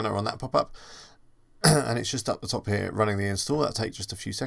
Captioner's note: clears throat